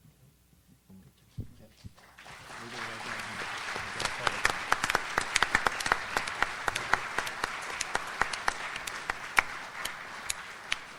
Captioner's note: audience applauds